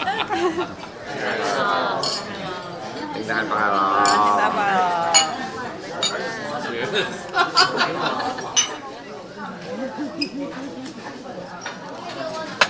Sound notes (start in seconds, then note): 0.2 all laughing; 5.2 glasses clinking; 11.0 all chattering